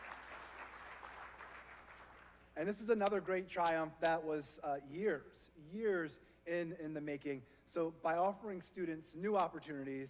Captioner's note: applause